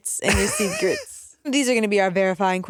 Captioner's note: laughs